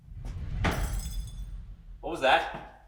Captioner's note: air whooshing; glass shattering